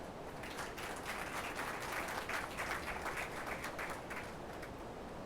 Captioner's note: attendees applauding